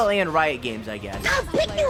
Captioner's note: child raging